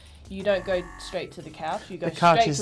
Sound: wrong answer buzz

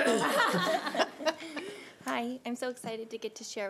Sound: laughing

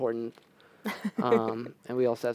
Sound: laughter

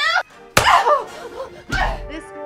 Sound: smack

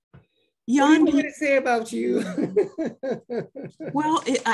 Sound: giggles

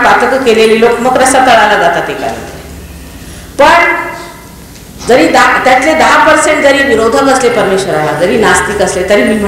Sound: more hindi while many people are coughing severely

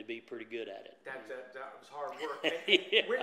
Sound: laughs

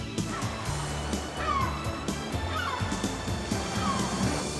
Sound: laughs; seagulls squawking

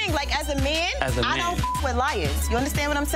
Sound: beeps

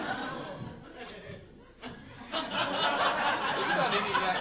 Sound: audience laughing

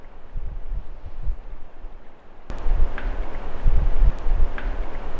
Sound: wood tapping faintly

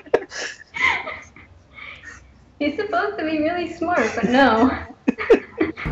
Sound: still laughing

